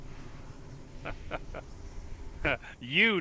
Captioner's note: laughing